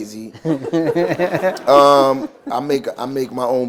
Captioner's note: laughter